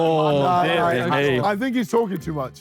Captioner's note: panel arguing